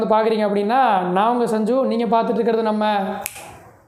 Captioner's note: SNAP :p